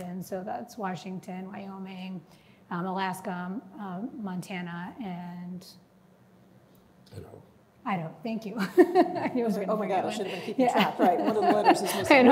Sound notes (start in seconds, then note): 8.6 chuckles